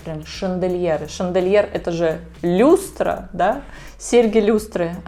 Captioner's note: explains Chandelier in russian